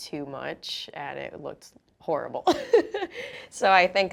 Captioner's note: chuckles